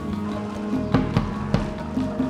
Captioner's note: camels walking